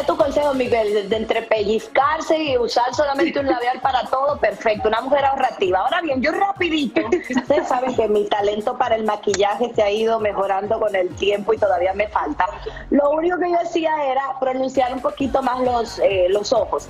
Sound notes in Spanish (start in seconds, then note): 4.1 risas